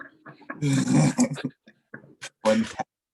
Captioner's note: laughing